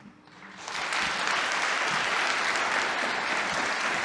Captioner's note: audience applause